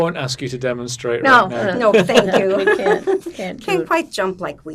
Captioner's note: laughing